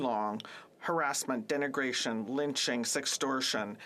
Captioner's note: speaking French